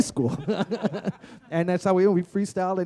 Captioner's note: laughter